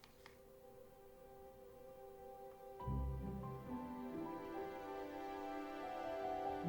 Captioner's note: gentle music; birds chirping